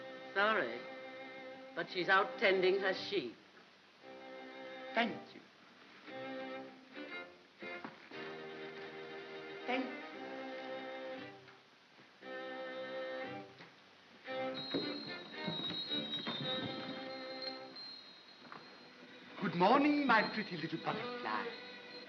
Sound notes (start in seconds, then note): 6.2 ominous whimsical music; 11.6 ominous whimsical music; 14.4 collar bells ringing; 14.5 ominous whimsical music